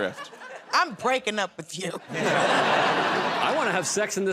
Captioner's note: laughter